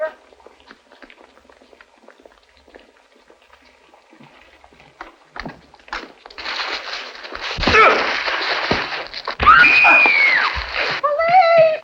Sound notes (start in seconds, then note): 9.4 woman screams